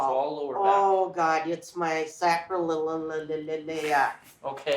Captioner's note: stutters